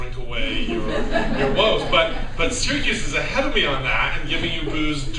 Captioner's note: laughter